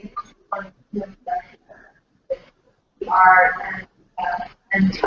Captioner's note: static